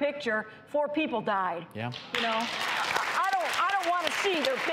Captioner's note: applauding